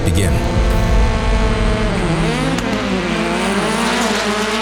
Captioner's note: engines revving